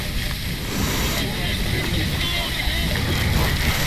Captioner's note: breathing